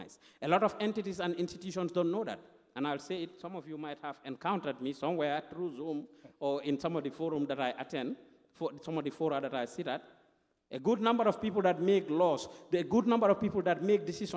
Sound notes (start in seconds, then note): none